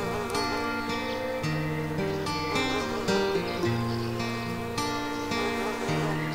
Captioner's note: bees buzzing